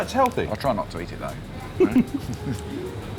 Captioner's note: laughs